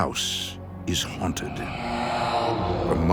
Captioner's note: ghostly Voice